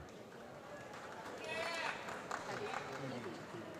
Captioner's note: applause